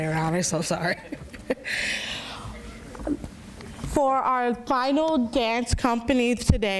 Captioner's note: laughs